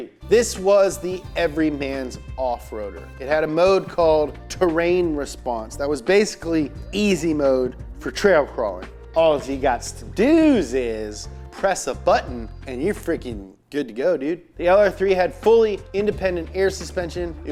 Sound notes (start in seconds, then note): none